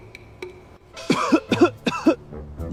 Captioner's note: cough cough